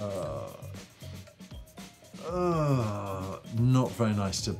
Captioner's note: grunts